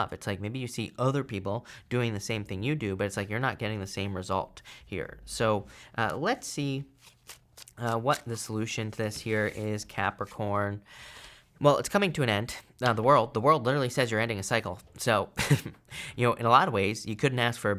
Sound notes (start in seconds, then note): 6.8 card shuffling; 15.2 laughing